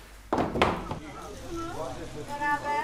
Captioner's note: mixed voices